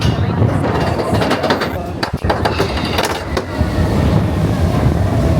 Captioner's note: train clattering